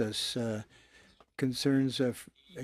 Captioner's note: speaking French